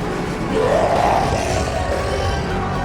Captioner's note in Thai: เสียงคำรามจากไกล ๆ